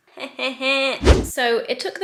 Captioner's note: chuckles; video swooshing